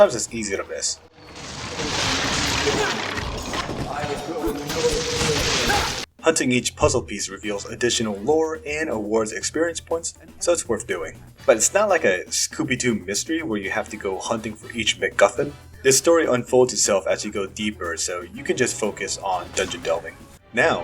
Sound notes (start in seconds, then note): 1.0 muffled story-telling